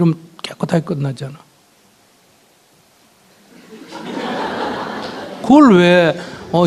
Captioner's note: audience Laughter